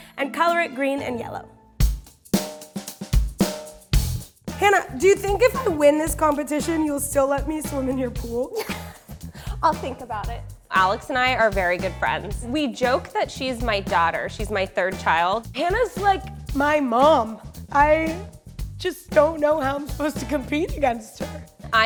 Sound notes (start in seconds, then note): 2.1 upbeat music; 8.6 laughs